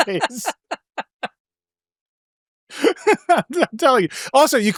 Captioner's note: laughing